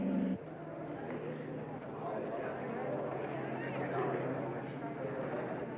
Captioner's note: crowd chattering